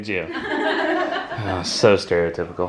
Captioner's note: laughter